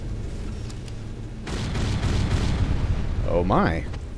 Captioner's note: gas ignites, then explodes